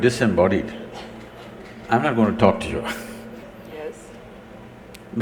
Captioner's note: laughs